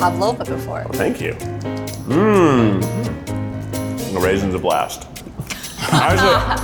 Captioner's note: laughter